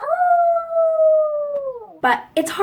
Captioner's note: coyote Howl